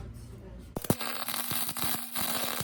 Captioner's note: crackling